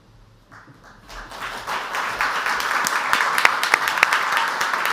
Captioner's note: audience applauds